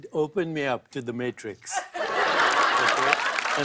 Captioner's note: laughter and applause